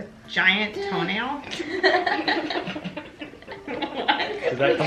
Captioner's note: everyone laughs